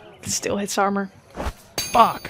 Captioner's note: another whoosh followed by a metal clang